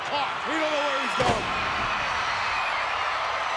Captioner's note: Skinner thuds; crowd cheering